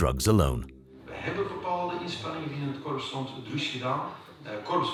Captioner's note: Dutch spoken audio